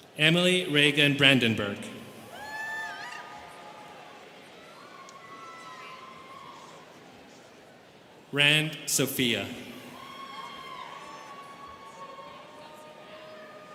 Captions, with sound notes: Emily Reagan Brandenburg. (students cheering) Rand Sofiya. (students cheering)